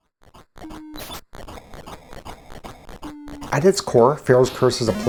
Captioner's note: video game sounds